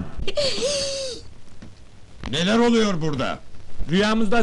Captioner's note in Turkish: korkuyla i̇ç çeker